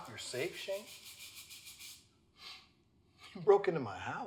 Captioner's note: sound of brush cleaning the floor